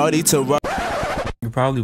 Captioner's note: record scratch